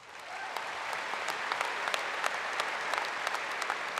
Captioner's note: applause